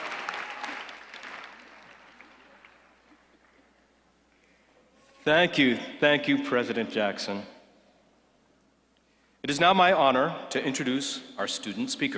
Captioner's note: applause